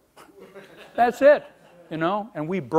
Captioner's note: laughing